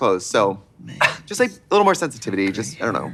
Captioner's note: Katya laughs